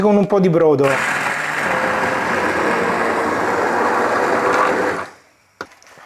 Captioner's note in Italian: rumore del mixer